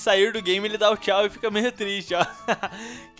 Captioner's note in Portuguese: risos